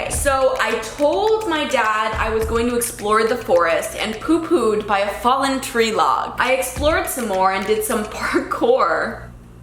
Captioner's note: none